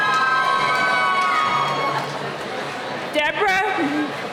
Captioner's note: cheering